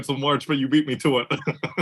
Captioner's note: laugh